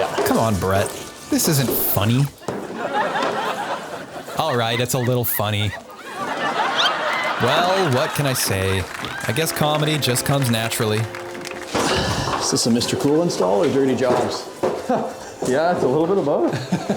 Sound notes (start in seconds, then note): 2.8 crowd laughing; 6.3 crowd laughing; 9.0 crowd applauding; 16.4 laughing